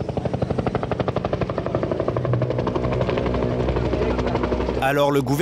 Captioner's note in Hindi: हवाई जहाज़ उड़ रहा है